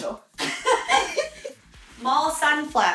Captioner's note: laughing